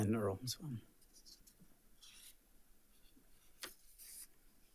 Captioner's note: pen scribbling; paper rustling